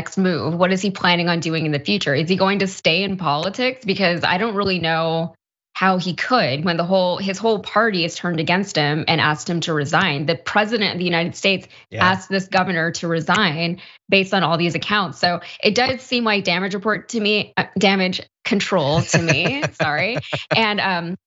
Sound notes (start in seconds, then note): 18.9 laugh